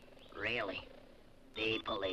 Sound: radio beeps

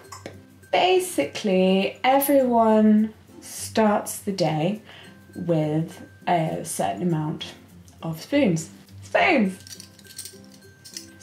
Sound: spoon rattle

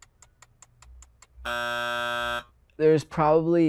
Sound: buzzer rings

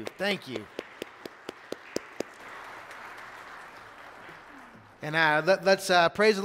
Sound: congregation applauding

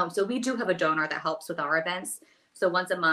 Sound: none

